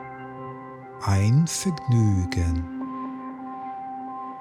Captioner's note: german